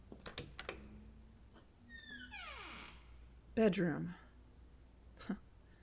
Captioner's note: opening door